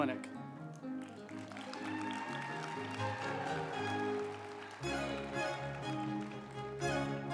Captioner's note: uplifting music; group applauding